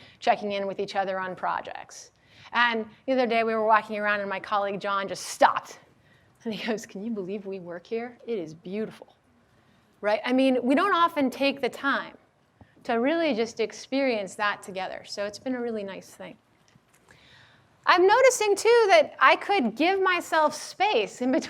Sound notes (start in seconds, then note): none